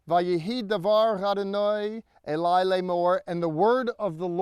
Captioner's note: speaking in Hebrew